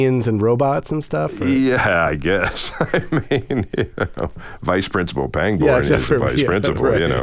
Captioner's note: laughter